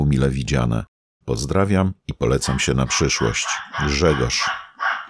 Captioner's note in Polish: szczekanie psa